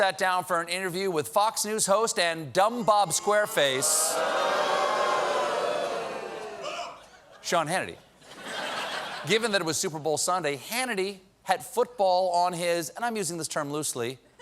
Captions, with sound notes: HOST AND "DUMB BOB SQUARE FACE," SEAN HANNITY. ( BOOING ) GIVEN THAT IT WAS SUPER BOWL SUNDAY, HANNITY HAD FOOTBALL ON HIS, AND I'M USING THE TERM LOOSELY, "MIND."